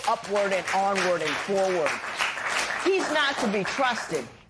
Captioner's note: applause